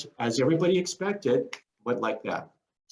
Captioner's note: snaps fingers